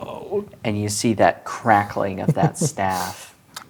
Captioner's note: laughing